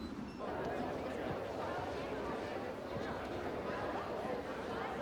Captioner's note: chatter